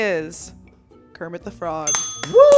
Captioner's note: bell dinging